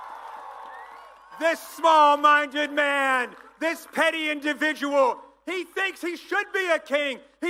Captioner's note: applause